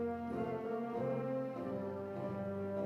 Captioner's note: none